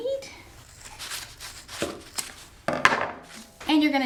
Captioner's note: scissors cutting